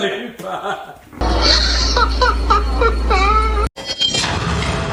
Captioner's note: laughter